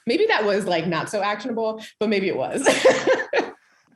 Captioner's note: laugh